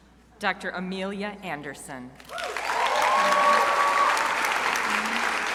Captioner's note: crowd cheering